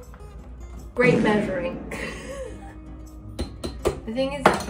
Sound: laughs

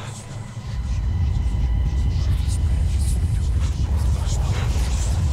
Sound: haunted whispers echoing

